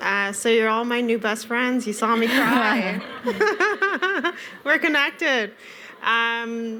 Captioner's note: laughter